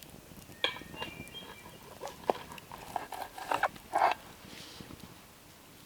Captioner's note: utensils scraping